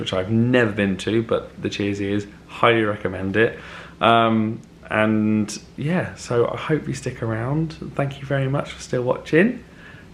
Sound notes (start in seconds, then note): none